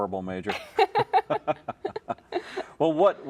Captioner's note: laugh